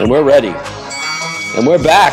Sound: opening bell

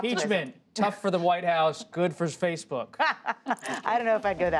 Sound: laughter; laughter

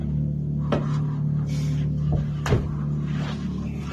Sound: thudding

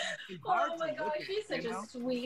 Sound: both laugh

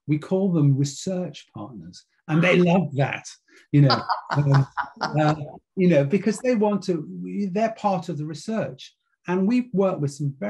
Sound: laughs

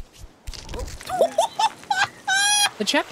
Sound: laughter

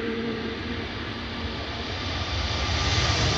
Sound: plane roaring

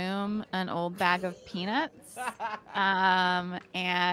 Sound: laughing

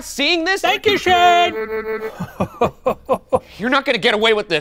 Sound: laughs

